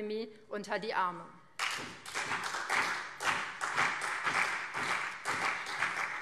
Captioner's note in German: Beifall BÜNDNIS 90/DIE GRÜNEN und CDU